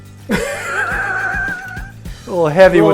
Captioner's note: laughs